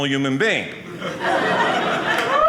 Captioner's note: audience laughing